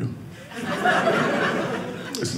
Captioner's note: audience laughing